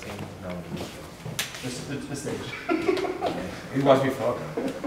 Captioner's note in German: lachen